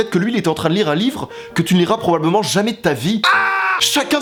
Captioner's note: scream